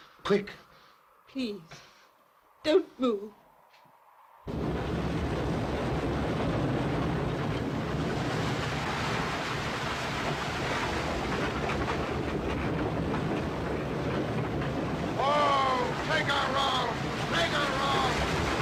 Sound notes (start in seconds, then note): 4.4 wind & waves